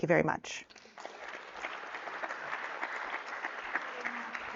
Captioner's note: audience clapping